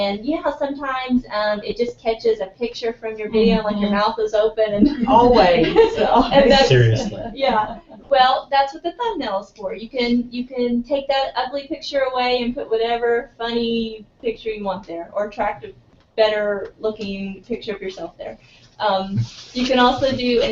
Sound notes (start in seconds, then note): 4.8 laugh